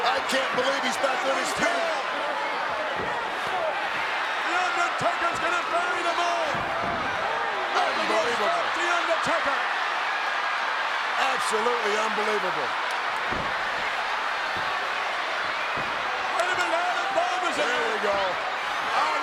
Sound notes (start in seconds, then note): 10.1 audience cheers